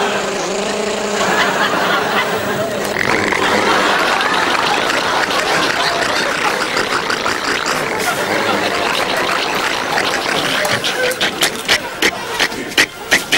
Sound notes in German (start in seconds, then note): 3.2 Rasierer stottert; 11.3 Stottert weniger